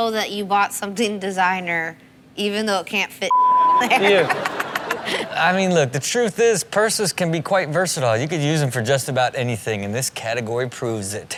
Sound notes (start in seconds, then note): 3.8 laughing